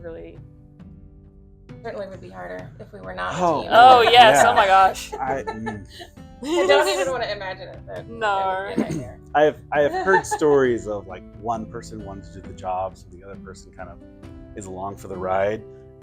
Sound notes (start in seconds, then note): 4.1 laughing, hootin and hollerin